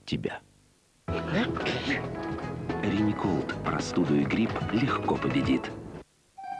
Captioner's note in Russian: чихает